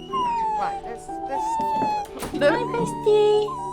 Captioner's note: Ruby whining